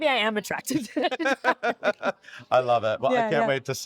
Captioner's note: both laughing